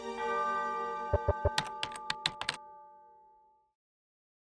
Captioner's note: typing sounds